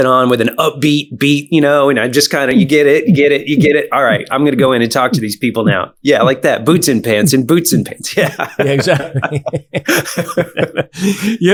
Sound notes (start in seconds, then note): 3.9 imitating EDM beat; 8.1 both laughing